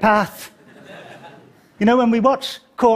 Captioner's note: laughter